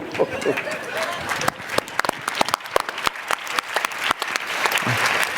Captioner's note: applause